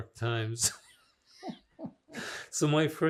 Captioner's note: laughing